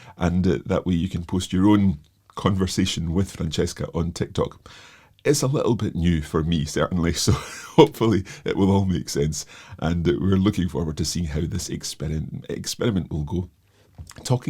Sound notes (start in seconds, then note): 7.2 chuckles